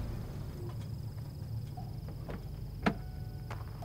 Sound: car engine stops

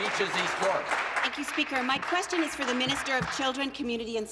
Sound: applause

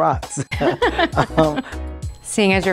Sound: both laugh

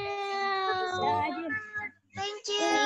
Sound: murmurs

